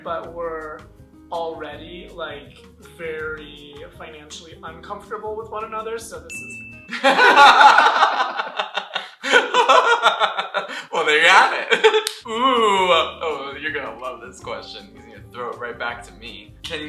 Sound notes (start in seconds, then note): 6.3 ding; 6.9 laughter